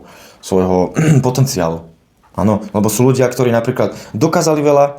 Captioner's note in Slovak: odkašľanie